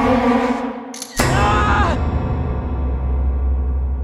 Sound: scream

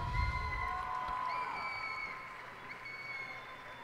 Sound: cheers and applause

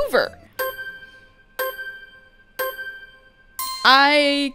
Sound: counting down; ding

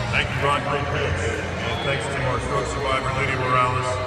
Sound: PA announcing

